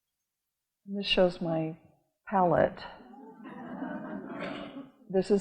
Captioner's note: audience laughing